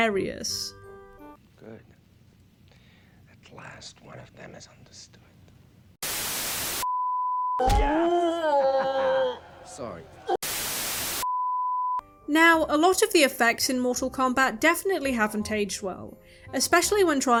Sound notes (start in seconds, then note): 6.0 static; 7.6 Goro groans in pain; 8.0 chuckles; 10.4 static